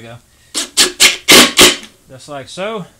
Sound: drill running

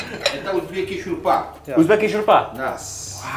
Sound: laughing; speaking foreign language

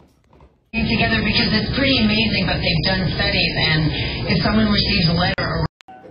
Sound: TV plays in background; students chattering

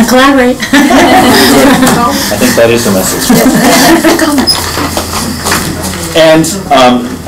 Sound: laughing

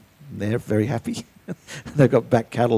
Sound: laughs

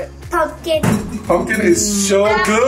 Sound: fridge door thuds

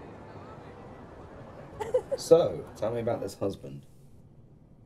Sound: laughing

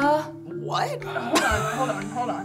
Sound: laughing

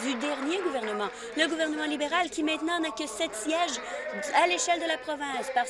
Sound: applause

